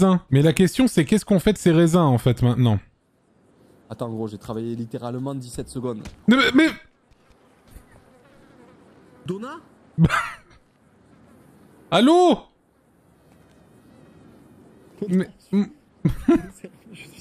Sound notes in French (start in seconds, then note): 6.2 Dona balbutie